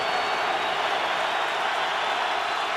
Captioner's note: whistle blowing